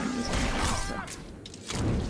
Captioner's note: growling